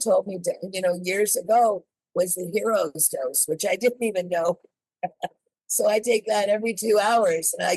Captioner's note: laughs